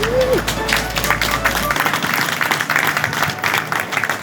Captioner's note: crowd applauds